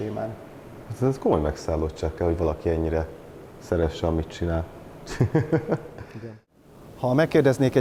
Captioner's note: chuckles